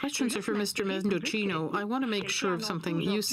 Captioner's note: speaking French